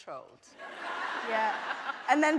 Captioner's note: audience laughing